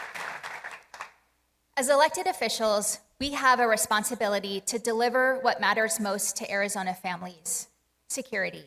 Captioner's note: applause